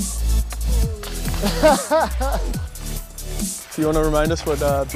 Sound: laughing

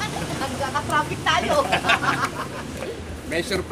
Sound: laughter

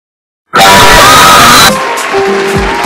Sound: high pitched screaming

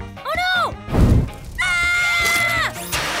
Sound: screaming

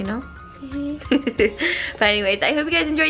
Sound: laughing

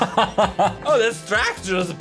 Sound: laughs

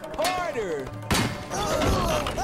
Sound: loud crash

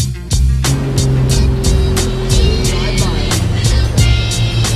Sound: boat engine roaring

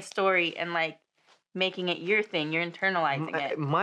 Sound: Val stammers

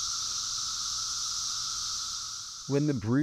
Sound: cicadas buzzing

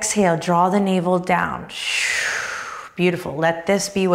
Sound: audibly exhales

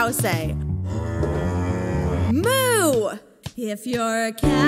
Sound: cows mooing

